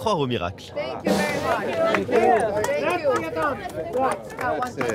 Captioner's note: speaking in English